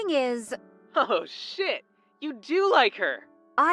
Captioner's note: phone vo